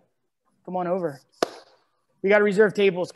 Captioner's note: clap